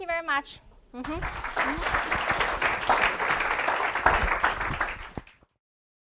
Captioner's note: applause